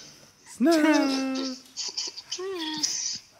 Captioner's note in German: Mit hoher Stimme